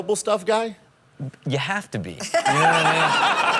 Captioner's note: all laugh